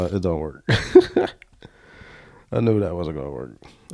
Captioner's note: laughs